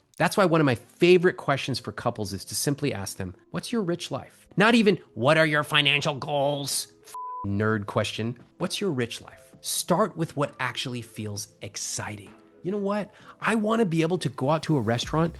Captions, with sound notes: That's why one of my favorite questions for couples is to simply ask them, what's your rich life? Not even, what are your financial goals? (beep) nerd question. What's your rich life? Start with what actually feels exciting. You know what? I wanna be able to go out to a restaurant